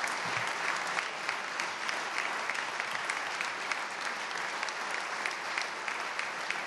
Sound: applause

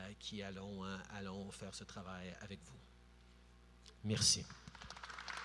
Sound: applause

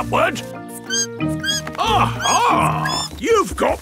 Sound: bat squeaking

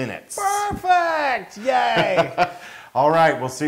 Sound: laugh

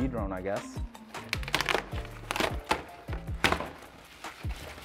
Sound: box unravels

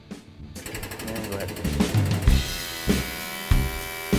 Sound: whirring

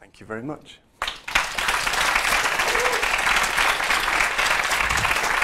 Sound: applause

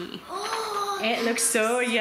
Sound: gasps

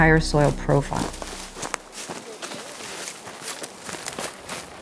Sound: footsteps

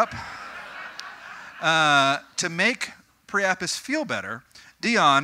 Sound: audience: Knowing laughter

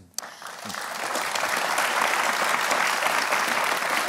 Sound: applause

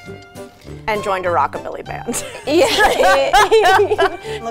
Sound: laughs

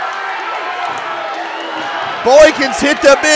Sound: crowd yelling

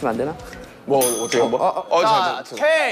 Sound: bell sound to change the roles

